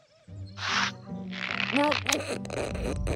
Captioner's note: cinch creaking